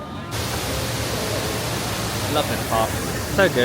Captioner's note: water flowing